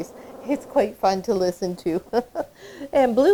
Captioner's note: laughing